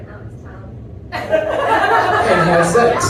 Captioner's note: laughter